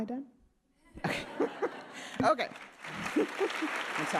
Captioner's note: audience laughing; audience clapping